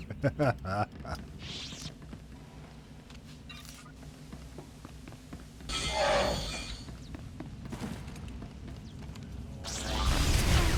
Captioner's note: laughter; gunshots